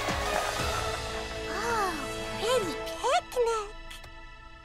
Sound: gasps

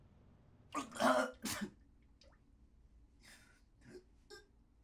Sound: hen Puking

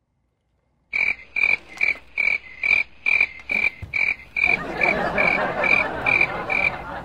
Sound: crickets chirping

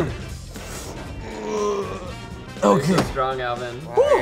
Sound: grunts

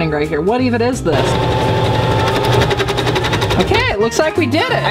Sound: sewing machine whirring quickly

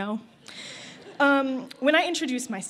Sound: laughter

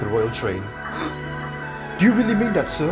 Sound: Gordon gasps

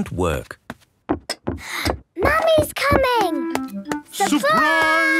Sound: footsteps approaching

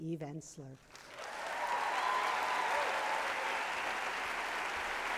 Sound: applause

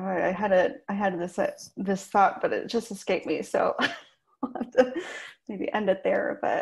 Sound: she laughs

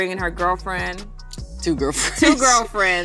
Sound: laughs

